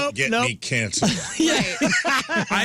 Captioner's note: laughter